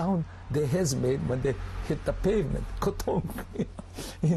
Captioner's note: laughs